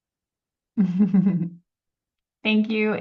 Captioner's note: chuckling